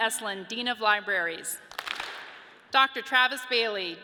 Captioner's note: audience claps